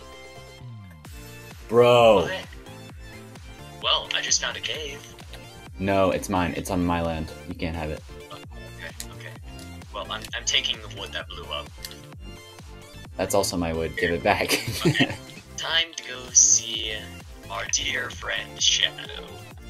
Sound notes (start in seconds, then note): 14.4 laughs